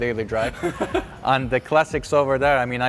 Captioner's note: laughs